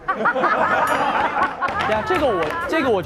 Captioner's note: hahaha